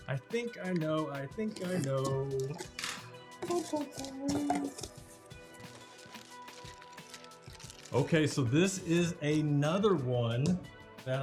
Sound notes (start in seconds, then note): 6.0 polythene paper rustling